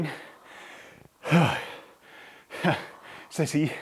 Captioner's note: sighs